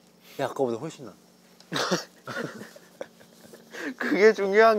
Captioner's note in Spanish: Jajaja